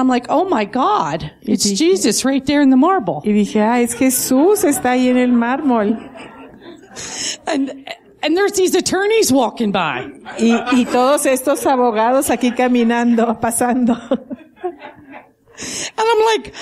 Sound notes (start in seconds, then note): 5.7 laughing